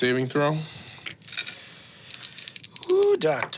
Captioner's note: dice rolling; dice clinking